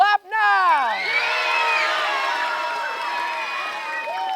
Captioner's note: cheering